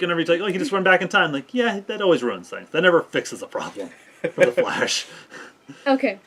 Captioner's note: laughing